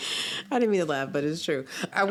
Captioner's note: laughs